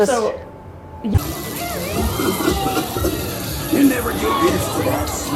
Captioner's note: object whirring